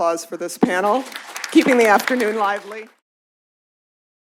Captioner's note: applause